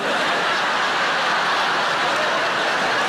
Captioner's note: crowd laughs